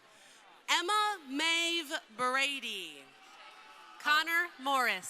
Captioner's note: crowd cheering